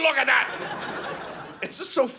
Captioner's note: audience laughing